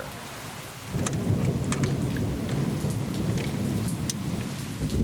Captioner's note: thunder rumbles; rain splatters